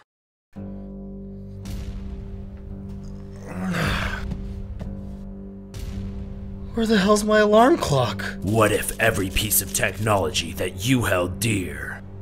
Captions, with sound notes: (groans) Where the hell's my alarm clock? What if every piece of technology that you held dear...